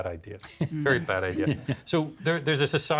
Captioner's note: chuckling